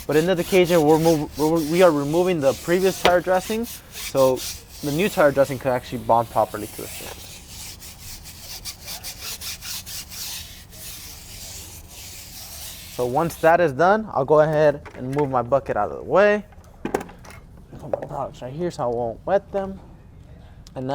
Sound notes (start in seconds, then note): 8.2 scraping sound